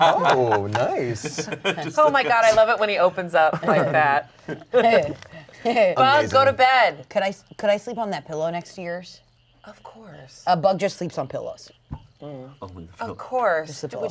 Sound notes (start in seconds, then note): 3.3 laughs